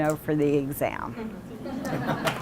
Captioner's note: laughter and applause from audience